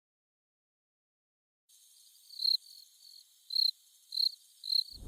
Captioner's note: crickets